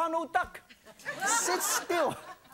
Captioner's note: laughing